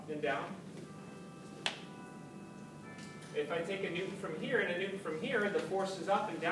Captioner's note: church bell ringing